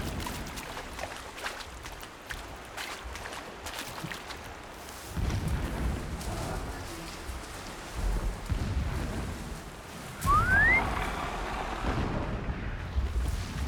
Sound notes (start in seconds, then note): 10.1 whistle